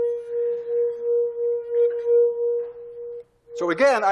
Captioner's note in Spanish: Tono continúa